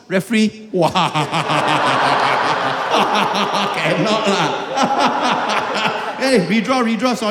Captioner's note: laughing in disbelief